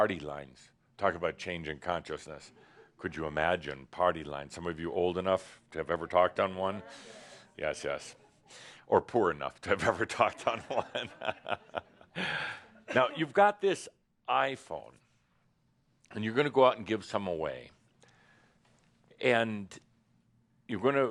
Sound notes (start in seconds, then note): 10.2 Adamus laughs